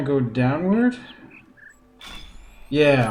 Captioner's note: bird chirps ˧ ˧ ˥ ˧ ˩